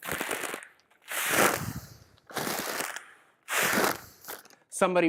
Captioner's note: breaths more slowly into bag